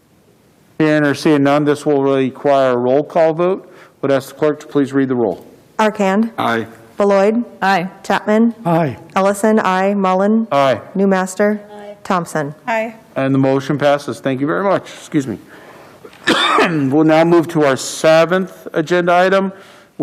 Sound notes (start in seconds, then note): 16.0 coughs